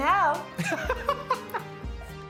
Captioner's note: laughs